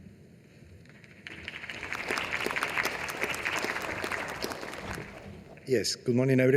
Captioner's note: applause